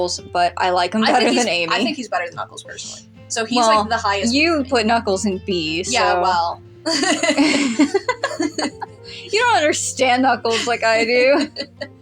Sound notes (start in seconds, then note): 6.8 both Laugh; 11.6 laugh